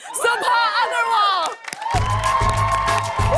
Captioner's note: cheers and applause